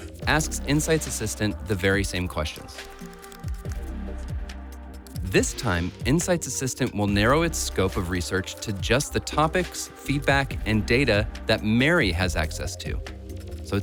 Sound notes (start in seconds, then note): 2.7 typing sound effect; 3.0 ambient music